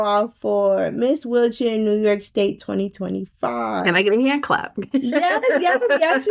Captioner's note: laughing